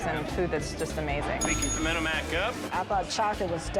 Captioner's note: bell dings